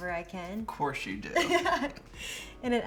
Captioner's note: laughs